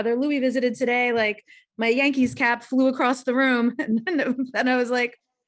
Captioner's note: laughs